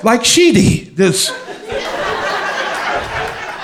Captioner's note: crowd laughter